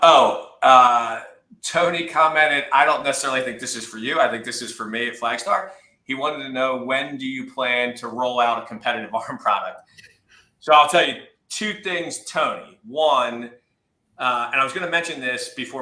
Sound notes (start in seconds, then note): 9.7 laughs